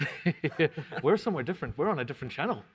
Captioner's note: both laugh